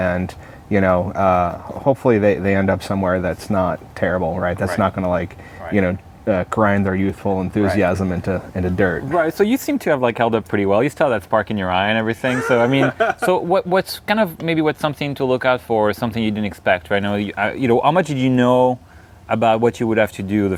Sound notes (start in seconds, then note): 12.2 laughter